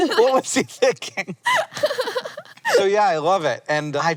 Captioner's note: laughs